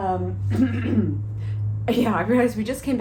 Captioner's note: clearing throat